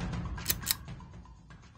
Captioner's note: click